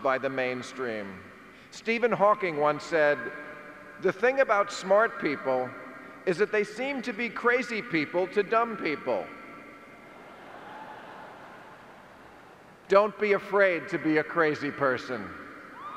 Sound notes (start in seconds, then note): 9.9 audience chuckling